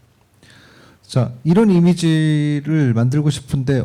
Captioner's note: speaking korean